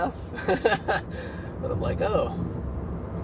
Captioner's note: laughing